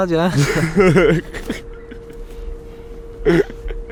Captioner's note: all laughing